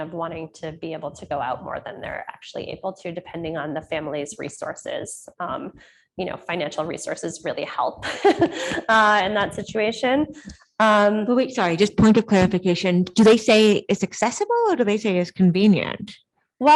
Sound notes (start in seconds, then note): 8.1 laughs